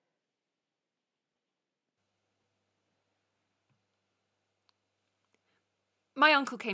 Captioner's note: A long pause